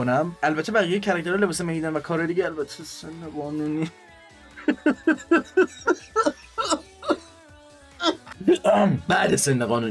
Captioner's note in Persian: خنده